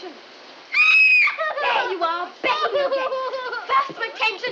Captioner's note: screams, sobbing